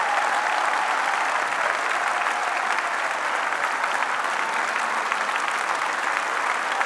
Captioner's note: applause